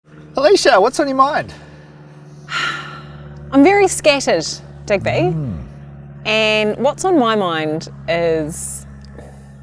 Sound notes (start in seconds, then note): 4.9 sighs